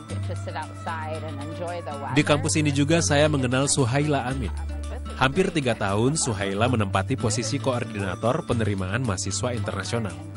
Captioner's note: non-english speech